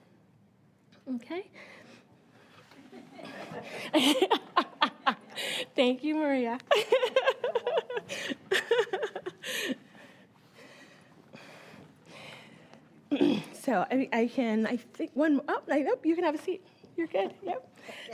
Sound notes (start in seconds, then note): 3.0 laughing